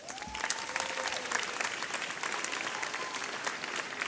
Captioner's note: audience applauds